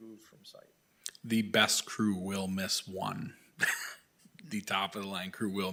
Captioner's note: chuckles